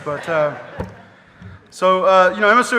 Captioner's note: audience laughing